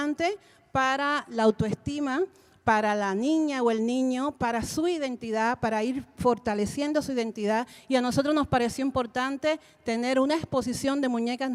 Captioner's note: Spanish language 00:41:06